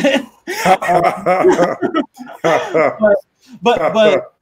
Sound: all laughing

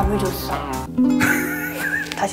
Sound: laughing

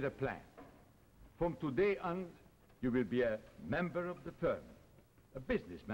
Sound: Charles' voice; Charles' voice

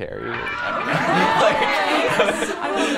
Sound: gasping

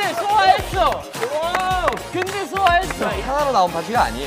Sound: clap

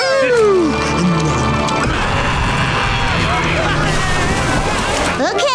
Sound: screaming

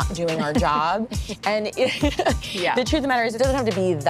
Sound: laughs

